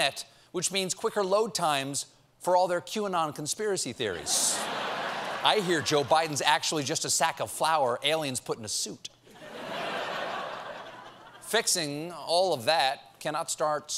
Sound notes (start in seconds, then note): 9.3 laughter